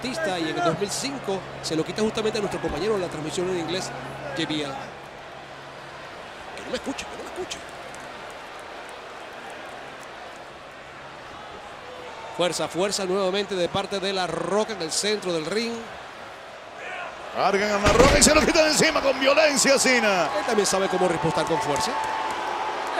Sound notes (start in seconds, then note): 5.0 applause